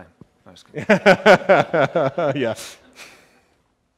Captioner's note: laughs